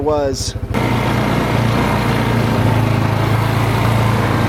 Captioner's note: ATV revs